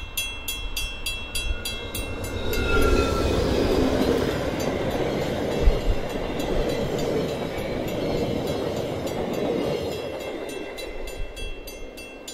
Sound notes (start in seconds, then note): 0.8 physical train bell and GE engine chug, with doppler; 4.5 passenger car trucks whooshing over crossing